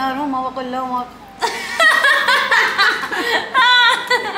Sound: laughs

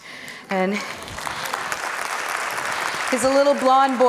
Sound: applauds

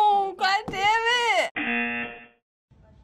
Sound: buzzer

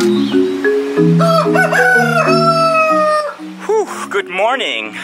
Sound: rooster crows

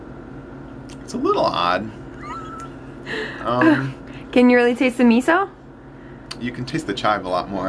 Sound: laughing

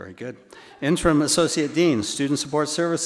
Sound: attendees laughing

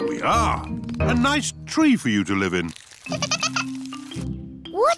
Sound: giggling

